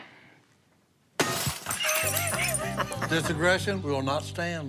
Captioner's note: Si laughs